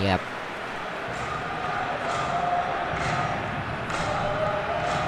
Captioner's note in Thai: ปรบมือ